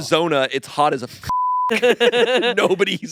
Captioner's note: beep